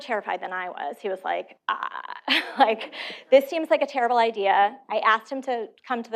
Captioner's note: laughter